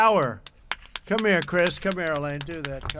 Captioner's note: applause